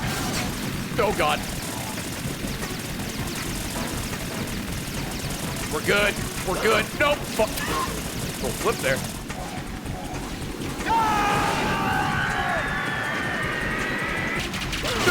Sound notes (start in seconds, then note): 10.9 laughs